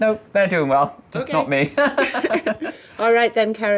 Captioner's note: laughing